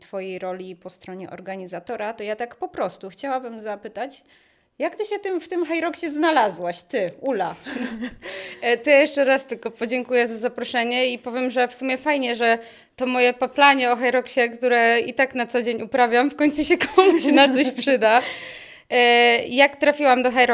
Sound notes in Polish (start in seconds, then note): 7.6 śmiech; 8.2 wciągnięcie powietrza; 18.2 wciągnięcie powietrza